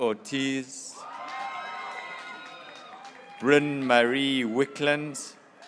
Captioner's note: graduates cheering